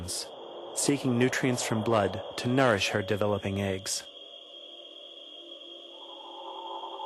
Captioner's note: mosquitoes buzzing